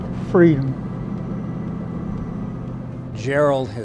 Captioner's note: car running